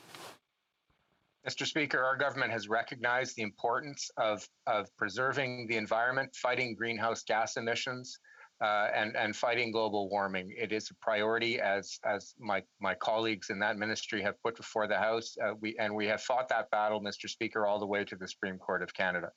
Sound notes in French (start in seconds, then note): 7.5 voix de l'interprète